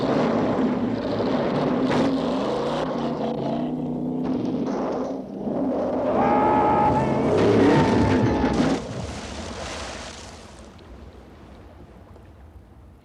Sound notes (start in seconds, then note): 8.5 car splashing